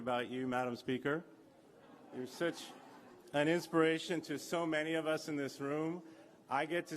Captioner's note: laughter